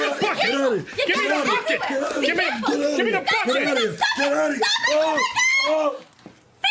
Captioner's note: shouting